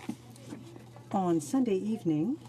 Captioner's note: speaking in French